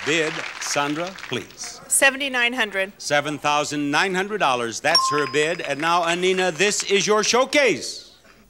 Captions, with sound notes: Bid, Sandra, please. - 7,900. - $7,900. (buzzer pings) That's her bid. And now, Annina, this is your showcase.